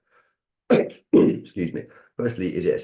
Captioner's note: clearing throat